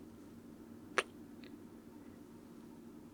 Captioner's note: kiss